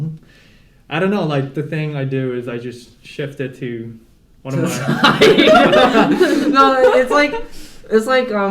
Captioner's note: laughter